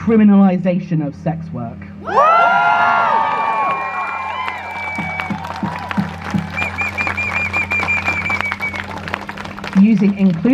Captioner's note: crowd cheers